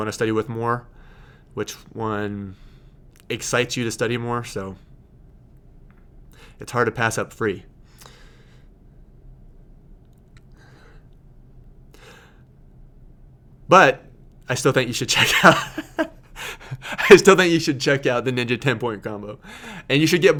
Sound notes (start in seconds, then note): 15.1 laughing